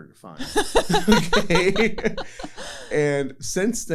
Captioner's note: laughter